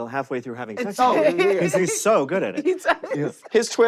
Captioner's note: laughs